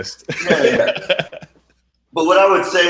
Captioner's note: laughing